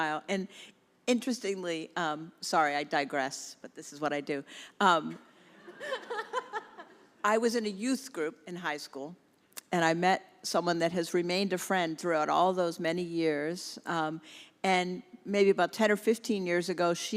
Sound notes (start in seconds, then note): 5.5 congregation laughs